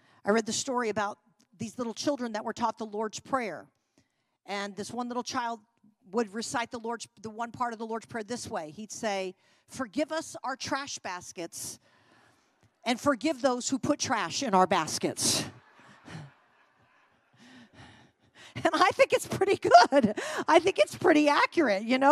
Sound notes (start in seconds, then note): 15.5 congregation laughing